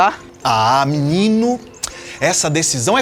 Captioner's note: mouth popping